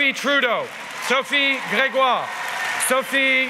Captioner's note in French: Applause